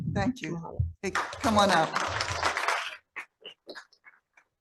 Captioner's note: audience applauding